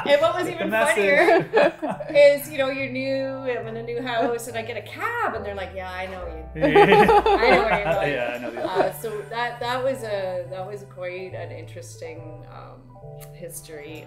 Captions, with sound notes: And what was even funnier-- - Get the message. - Is, you know, you're new and in a new house and I get cab and they're like, "Yeah, I know where you..." (laughing) I know where you're going. So that was quite an interesting history of the brothel